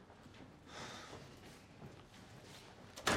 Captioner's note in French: soupir